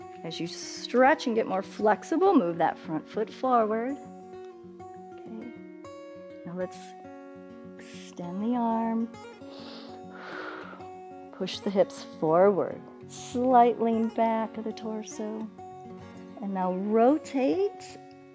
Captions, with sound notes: As you stretch and get more flexible, move that front foot forward. Now, let's extend the arm. [inhales and exhales] Push the hips forward, slight lean back of the torso. And now, rotate.